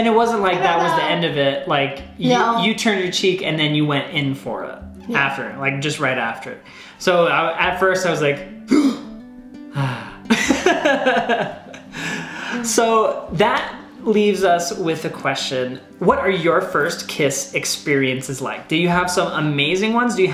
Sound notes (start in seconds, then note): 9.7 gasps; 10.2 laughs